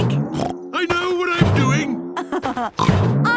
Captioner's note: snorts; laughs